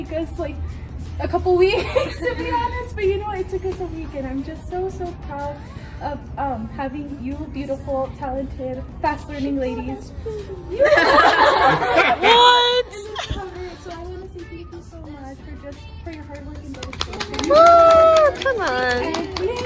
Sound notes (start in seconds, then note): 10.2 giggles; 16.0 clapping & cheering